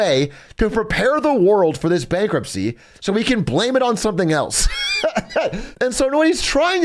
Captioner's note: laughs